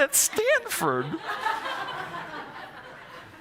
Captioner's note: laughter